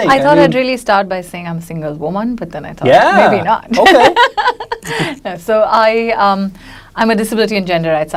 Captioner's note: laughs